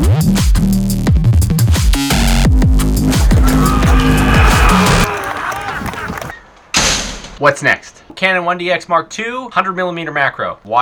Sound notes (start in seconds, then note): 3.2 cheering